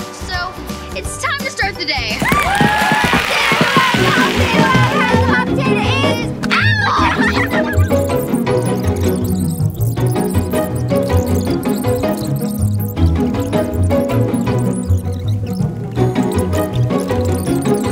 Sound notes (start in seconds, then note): 2.2 applause and cheering; 4.1 mumbled singing; 4.1 upbeat music; 6.4 giggling; 7.9 energetic music; 7.9 fast forward scratching